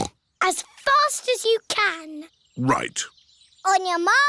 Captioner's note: snorts